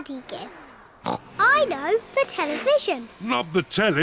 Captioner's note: oinks